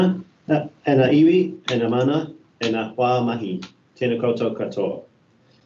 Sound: speaking in te reo Māori

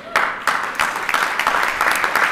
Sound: applause

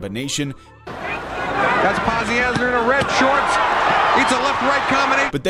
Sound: crowd cheering

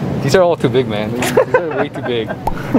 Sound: both laugh

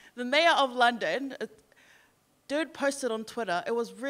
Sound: none

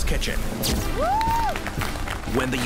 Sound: cheers

